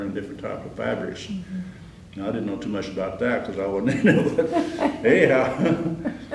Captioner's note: laughter